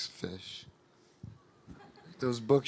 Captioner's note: audience laughing